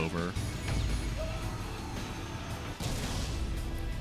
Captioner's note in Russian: истошный крик